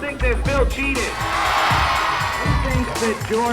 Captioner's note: audience cheering